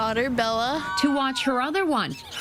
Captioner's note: cheers and applause